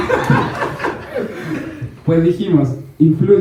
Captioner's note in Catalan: rialles